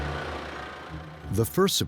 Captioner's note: motor rumbling